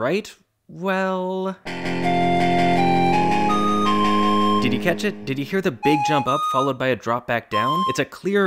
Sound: bang

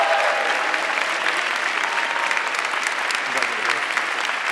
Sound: audience clapping

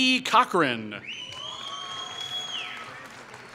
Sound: applause

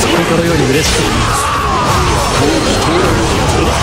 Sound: fatal scream

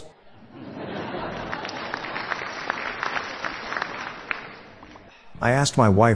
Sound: laughter

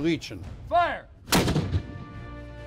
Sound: cannon fire

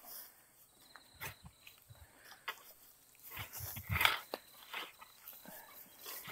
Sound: insects chirping; tools scraping

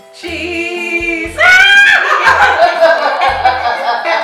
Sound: yells

